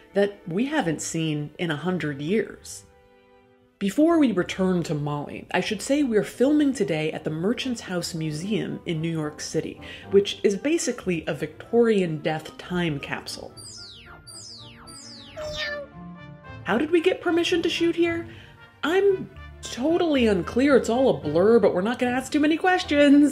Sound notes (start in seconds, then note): 13.6 lazer zapping; 15.4 cat meowing